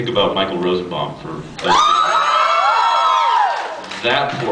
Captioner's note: cheers and screams